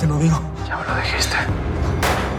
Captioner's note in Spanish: Disparo